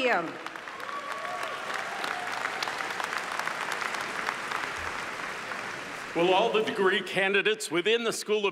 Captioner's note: applause